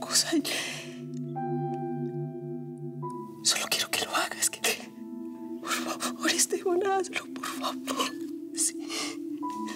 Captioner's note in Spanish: solloza